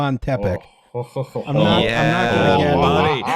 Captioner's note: laughs